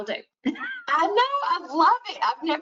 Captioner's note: chuckles